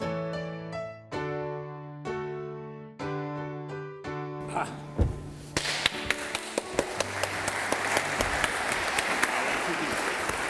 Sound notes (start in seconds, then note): 0.1 light inspiring music continues; 4.4 reverend grunts; 5.6 reverend applauds; 7.1 audience applauding